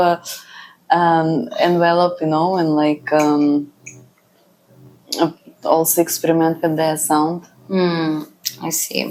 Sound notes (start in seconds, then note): 5.1 laughs